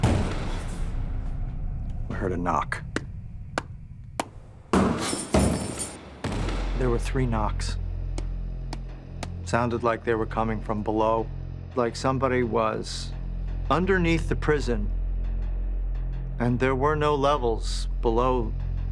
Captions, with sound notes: I heard a knock. [smacks palm] [banging] There were three knocks. It sounded like they were coming from below, like somebody was underneath the prison. And there were no levels below the basement.